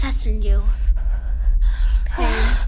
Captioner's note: heavy breathing